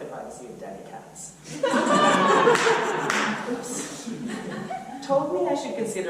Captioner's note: audience laughter